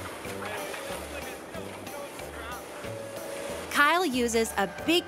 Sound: people chattering

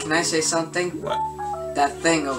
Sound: phone randomly sounds

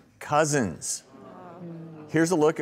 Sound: audience groans

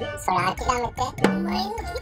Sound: boss monkey voice

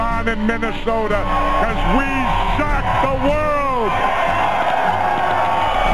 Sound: crowd cheering

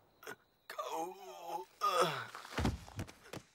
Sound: gasping

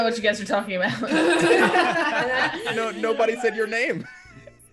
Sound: laugh

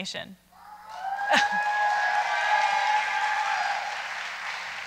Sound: audience cheering

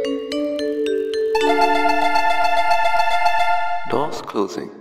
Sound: door Chime

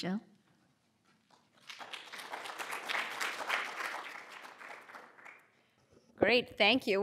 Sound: applause

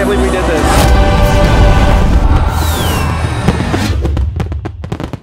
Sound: fireworks exploding

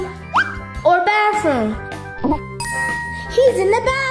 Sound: bell dinging

